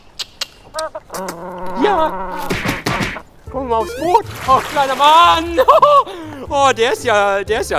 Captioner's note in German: lacht